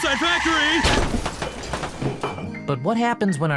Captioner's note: brakes screeching; crashing; mellow piano